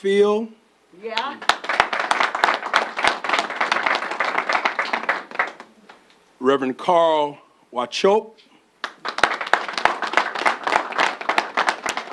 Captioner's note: applause